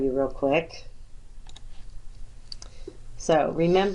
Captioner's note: clicks